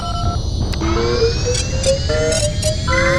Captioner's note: beeps and computer sounds